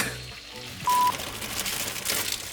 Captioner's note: recording beeps; bag rustles